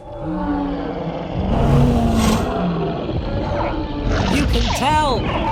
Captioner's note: dinosaurs roar loudly